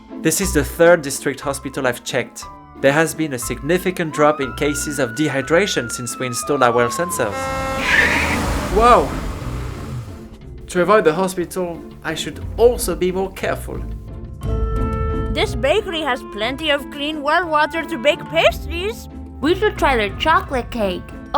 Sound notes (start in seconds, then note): 7.6 horn, screech